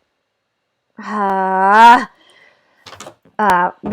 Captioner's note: frustrated sigh